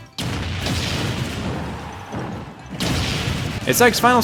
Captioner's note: explosions